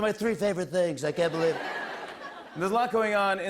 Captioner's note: laughter